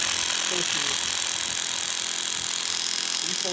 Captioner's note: drill whirring